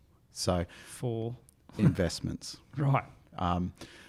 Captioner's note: chuckles